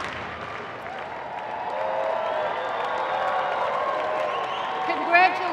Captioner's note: applause